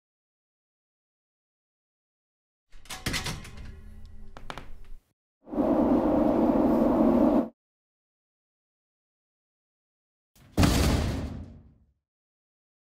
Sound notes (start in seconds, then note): 3.3 door closing; 7.0 train rumbling